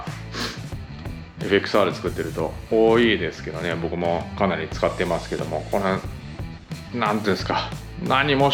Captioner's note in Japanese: 鼻息